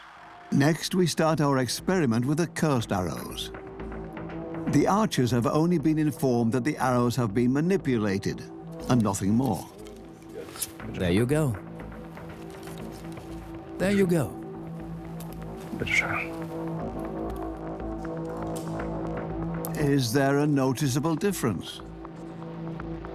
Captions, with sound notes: Next, we start our experiment with the cursed arrows. The archers have only been informed that the arrows have been manipulated, and nothing more. There you go. There you go. (speaks German) Is there a noticeable difference?